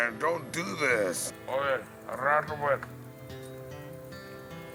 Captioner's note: pirate Speaking Spanish